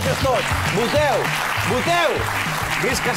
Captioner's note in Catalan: aplaudiments